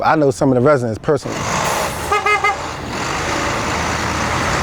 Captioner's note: truck honking